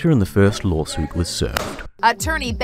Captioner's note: smack